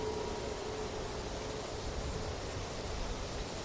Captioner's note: wind blowing